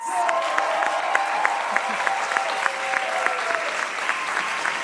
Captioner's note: audience applauding